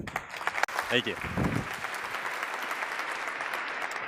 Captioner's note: applause